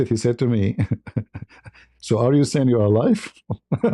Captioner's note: ketawa